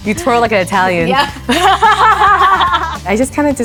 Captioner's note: both laughing